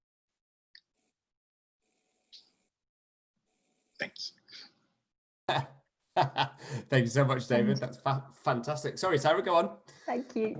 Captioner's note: laughter